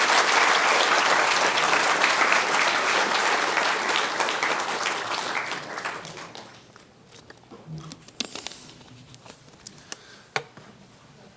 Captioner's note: applause